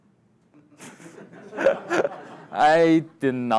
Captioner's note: everyone laughing